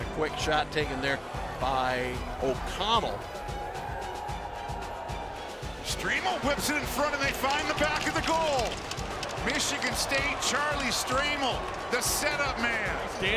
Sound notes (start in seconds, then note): 3.2 audience shouting; 3.2 upbeat music